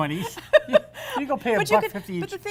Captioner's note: laughter